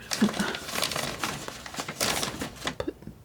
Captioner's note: scratching